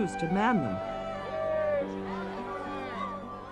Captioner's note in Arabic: الناس يصرخون